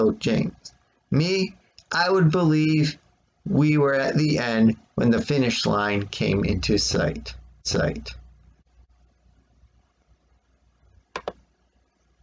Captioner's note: click of track pad